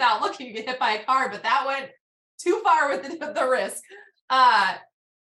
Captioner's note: laughs